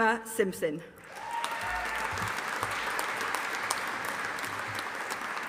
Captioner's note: audience applauding